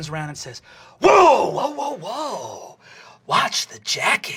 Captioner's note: raspy greaser voice